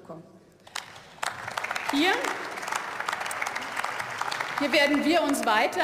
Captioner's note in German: Beifall